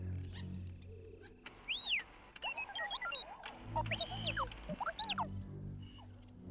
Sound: whistle Beep Beep

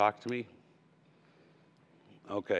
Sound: no answer

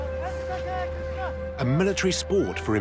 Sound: men shouting

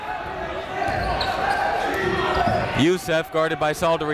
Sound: chatter

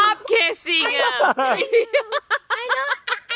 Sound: laughing

